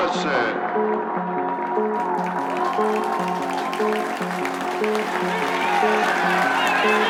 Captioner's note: gentle music continues; audience cheers and applauds